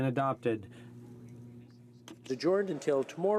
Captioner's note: speaking French